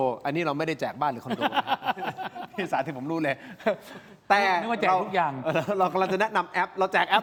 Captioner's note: laughter